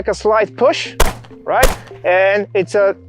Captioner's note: gun shooting